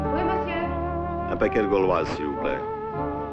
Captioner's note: French spoken audio